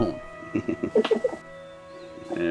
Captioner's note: both giggling